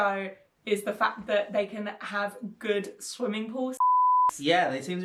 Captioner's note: beep